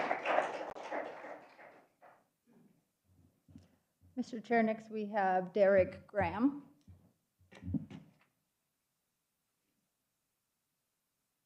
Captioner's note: applause